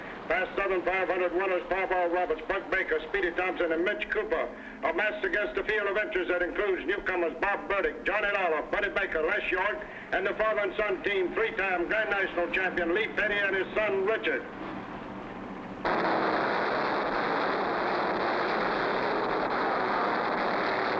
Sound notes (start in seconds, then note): 14.8 engines rumbling